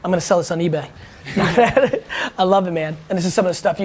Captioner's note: laughs